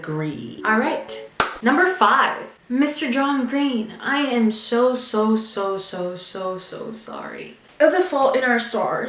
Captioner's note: clap